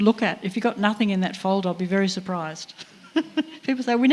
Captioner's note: laughs